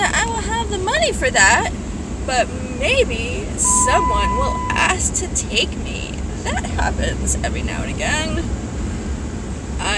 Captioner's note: truck screams in alarm